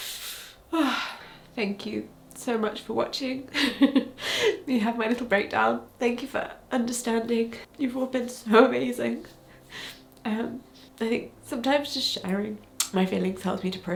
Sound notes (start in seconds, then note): 0.6 sighs; 3.5 chuckles